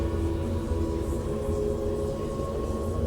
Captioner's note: none